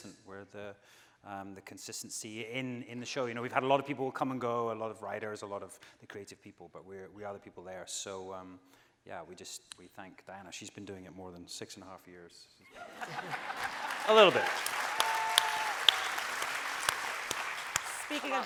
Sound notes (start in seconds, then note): 12.8 audience cheering